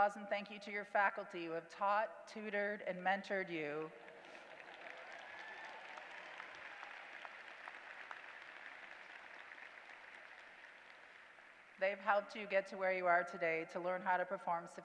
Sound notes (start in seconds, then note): 4.0 applause